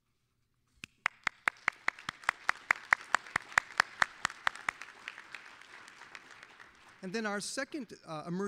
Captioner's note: applause